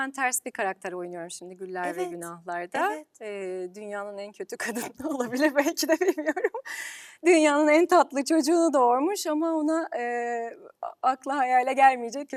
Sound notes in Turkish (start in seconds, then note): 5.5 kahkaha